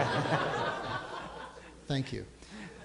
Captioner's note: audience laughing